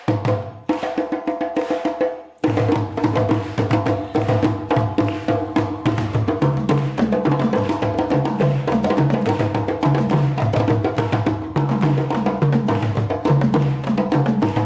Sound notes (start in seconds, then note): 1.1 audience clapping to beat